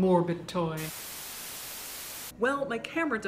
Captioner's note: TV static